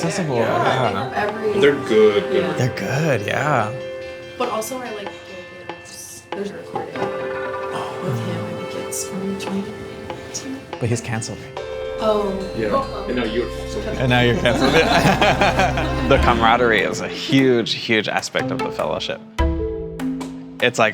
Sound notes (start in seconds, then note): 13.8 laughs; 14.0 everybody laughs